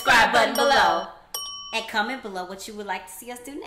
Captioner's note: bell dinging